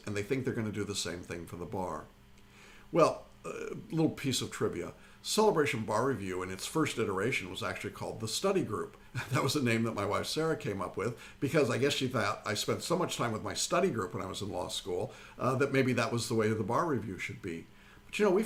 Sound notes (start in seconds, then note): 9.2 laughs